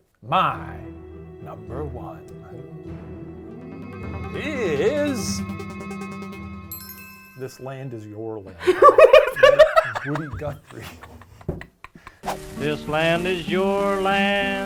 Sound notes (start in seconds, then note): 0.4 suspenseful music; 6.7 chimes dinging; 8.5 laughing